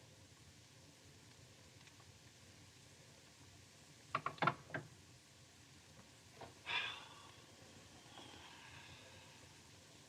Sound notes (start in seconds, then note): 6.6 sighs